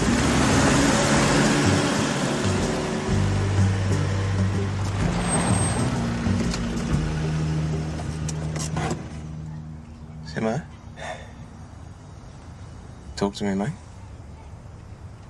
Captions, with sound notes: (STOPS ENGINE) - Simmo? - (SIGHS) Talk to me, mate.